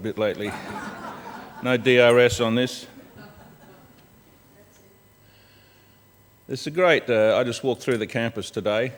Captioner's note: laughter